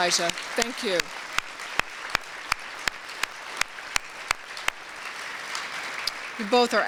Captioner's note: applause